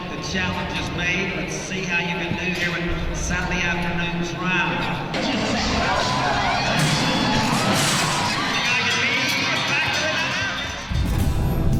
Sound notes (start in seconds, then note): 0.2 loudspeaker introduces the rider; 7.1 door crashes open